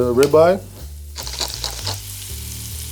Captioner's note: cracking pepper; beef sizzling